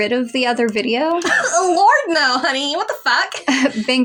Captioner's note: scoff